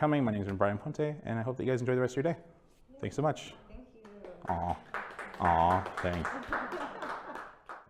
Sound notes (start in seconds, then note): 4.0 applause